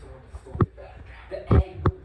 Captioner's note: whisper arguing